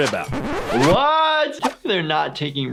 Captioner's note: record scratches